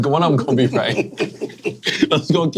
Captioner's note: men laughing